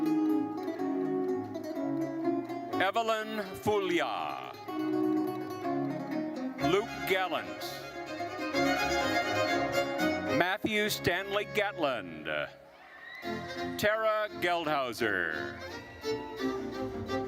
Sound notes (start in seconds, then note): 12.6 attendees cheering